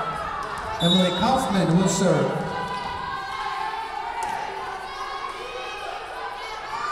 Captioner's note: whistle blowing